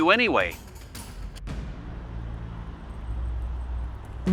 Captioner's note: street sounds, rain